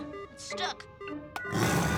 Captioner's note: dinosaur growls